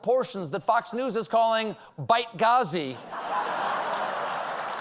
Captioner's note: applause; laughter